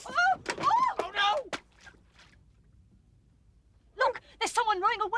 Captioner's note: Livy shrieks